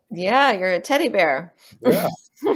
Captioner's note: laughs